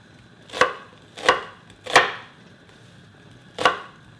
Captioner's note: knife chopping